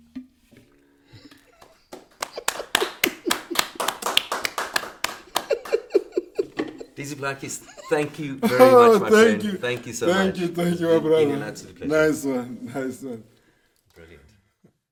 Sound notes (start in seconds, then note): 1.6 all applaud; 1.7 chuckles